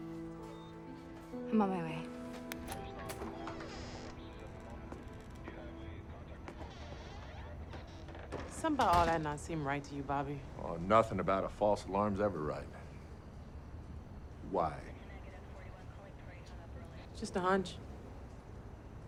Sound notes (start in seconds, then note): 0.2 gentle tense music; 2.5 hinges squeaking; 3.0 door latch clicks